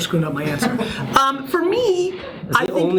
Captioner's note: laughs